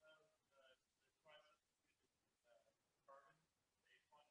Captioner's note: student speaking faintly